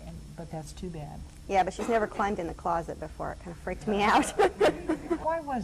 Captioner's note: laughs